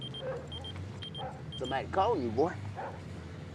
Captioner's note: cellphone ringing